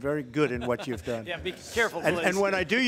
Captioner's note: laughter